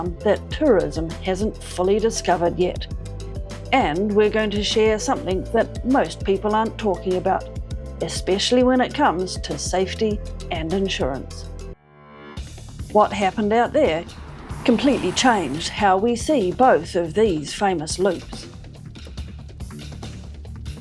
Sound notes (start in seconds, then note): 14.6 electrical sparks; 19.4 cinematic music